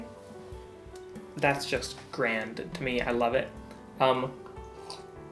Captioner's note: sip